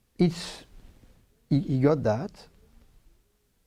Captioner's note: none